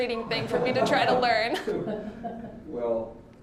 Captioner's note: all laughing